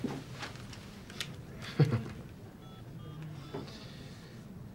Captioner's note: Tony laughing